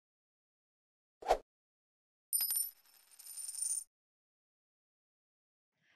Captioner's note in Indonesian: suara koin